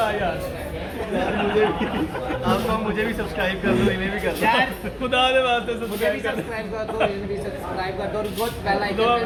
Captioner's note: lols